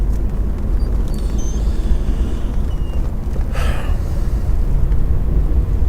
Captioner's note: wind blowing; sighing